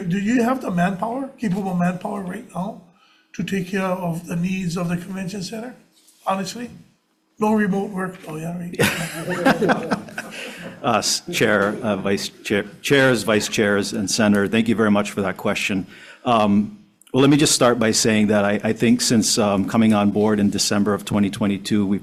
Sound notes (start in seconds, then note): 8.8 everyone laughing; 8.8 laughs